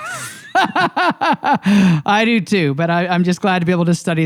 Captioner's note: laughs